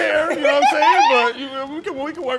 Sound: giggling

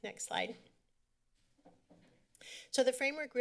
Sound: silence

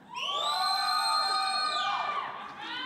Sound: audience cheering

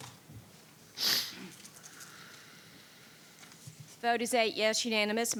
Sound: sniffing

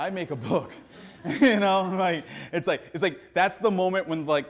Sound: audience laughing; laughs

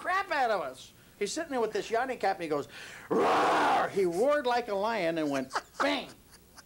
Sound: screams

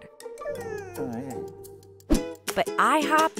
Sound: whining

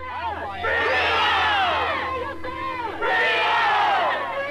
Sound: crowd protesting

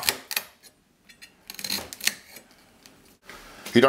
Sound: crunching sound

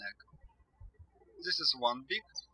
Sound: birds chirping

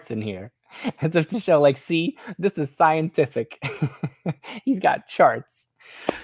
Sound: laughs

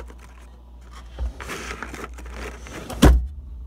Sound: packets rustling; drawer closes

